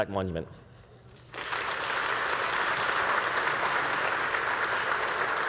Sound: audience applauding

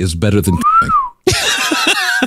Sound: laughing

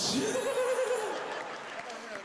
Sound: laughs

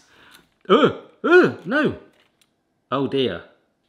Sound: groans

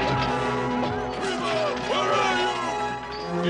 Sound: hitting

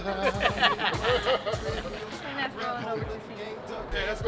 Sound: laughing

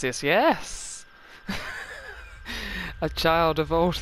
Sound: laughing

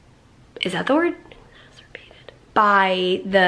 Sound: whispers

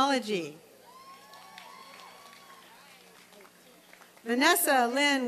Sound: applause and cheering

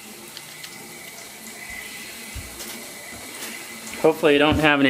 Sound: water running

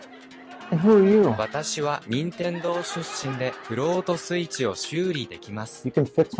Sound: unable to translate Japanese

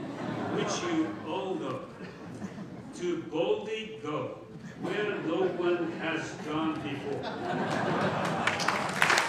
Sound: laughter and applause

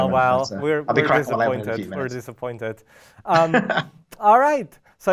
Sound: laughs

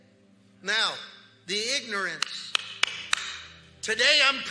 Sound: claps hands

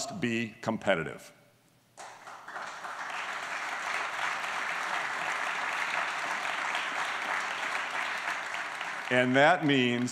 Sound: applause

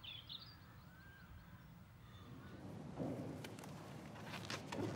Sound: aves trinando

